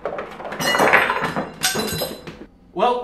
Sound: thumping

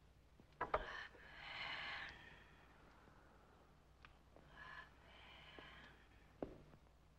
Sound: whispers

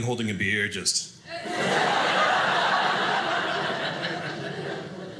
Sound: audience laughing

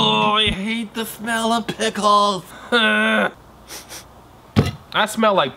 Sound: groans; groans

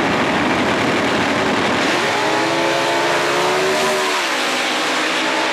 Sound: car engines

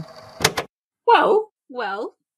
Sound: tape recorder clicks off

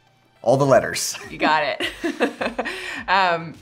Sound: laughs

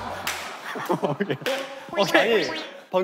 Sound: laughing

